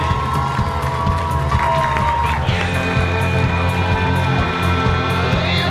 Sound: audience applauding

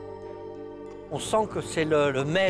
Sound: speaking French

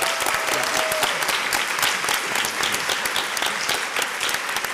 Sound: crowd cheers and applauds

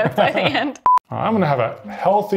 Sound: beep

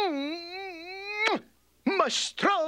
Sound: kissing loudly

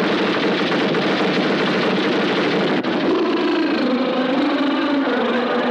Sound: machine banging

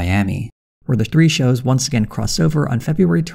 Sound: none

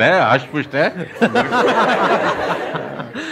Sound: laughing

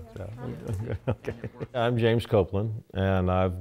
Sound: laughs

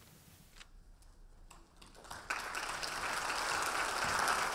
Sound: audience applauding

